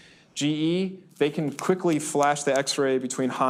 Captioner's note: snaps fingers